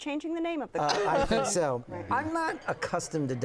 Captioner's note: laughter